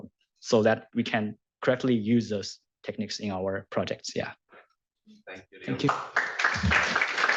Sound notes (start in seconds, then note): 5.7 applause